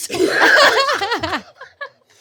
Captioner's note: laughing